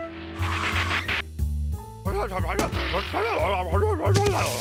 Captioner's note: tires screech